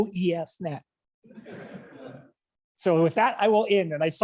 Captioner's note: audience laughs